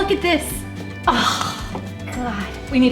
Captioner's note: mother sighs